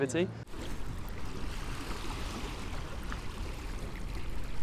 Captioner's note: water flowing